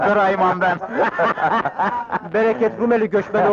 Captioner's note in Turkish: Kahkahalar